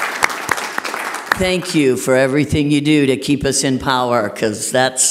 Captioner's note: applause